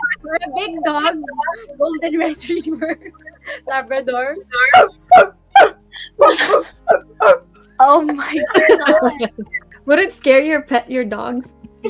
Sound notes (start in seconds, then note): 0.0 laughing; 4.6 Ynna dogs barking; 4.7 laughing